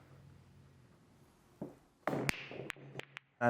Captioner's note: pool balls clicking